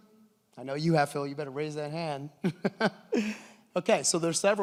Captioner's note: laughs